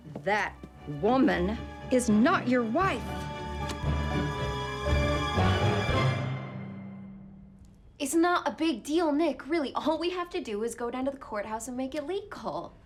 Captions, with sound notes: THAT WOMAN IS NOT YOUR WIFE! [SMACKS PAPER DOWN] IT'S NOT A BIG DEAL, NICK, REALLY. ALL WE HAVE TO DO IS GO DOWN TO THE COURTHOUSE